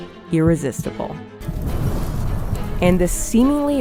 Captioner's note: fire blazing